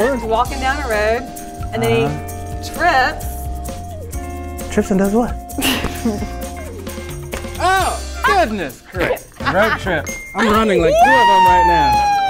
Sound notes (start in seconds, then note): 5.6 laughing; 9.9 bell dings